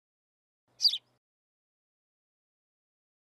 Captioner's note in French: chant d’oiseau